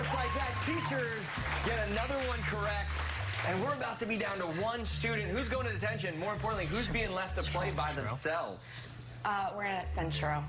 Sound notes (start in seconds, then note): 2.3 cheers and applause